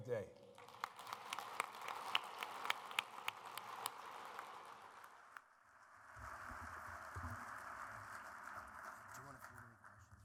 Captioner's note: applause